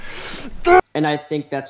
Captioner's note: yells